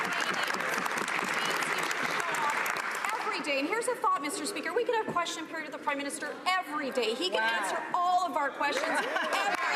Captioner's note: some Applause